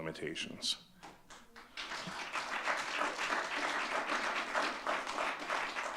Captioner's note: audience clapping